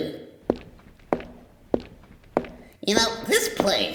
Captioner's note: footsteps